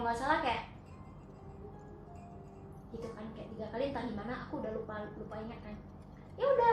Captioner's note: sounding a cup